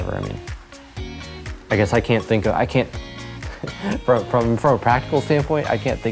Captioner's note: chuckles